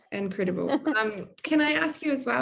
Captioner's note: laughing